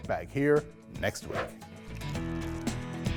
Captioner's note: wind whooshing; upbeat music